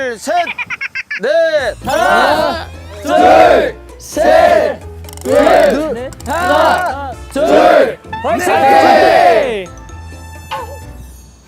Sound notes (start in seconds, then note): 5.0 bones creaking beautifully